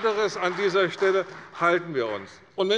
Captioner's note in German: Beifall bei der CDU